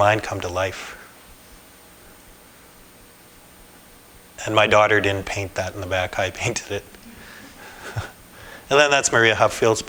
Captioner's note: laughter